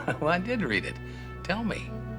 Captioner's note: chuckles